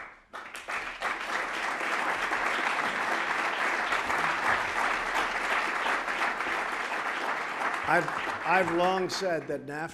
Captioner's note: applause